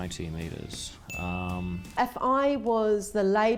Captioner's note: ding